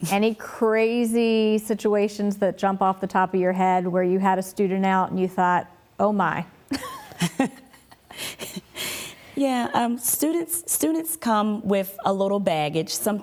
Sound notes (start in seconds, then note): 6.8 laughs